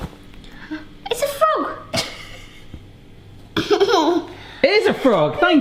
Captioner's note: chuckles